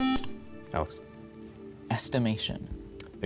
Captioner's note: buzzer